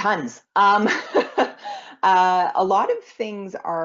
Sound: laughs

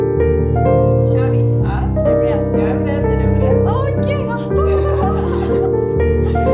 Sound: speaking in Swedish

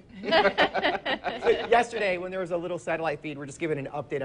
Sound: laughs

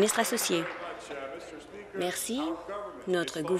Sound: applause

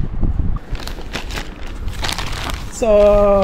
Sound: scrumpling

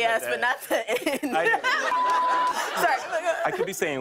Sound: laughter

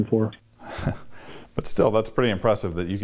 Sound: chuckles

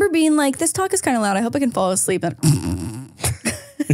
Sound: snores; laughing

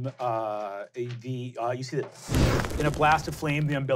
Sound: wooshing

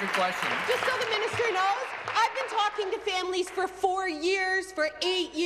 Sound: applause

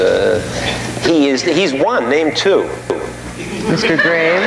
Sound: audience laughing

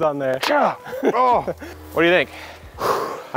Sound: grunting

